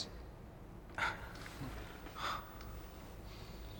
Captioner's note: gasps of surprise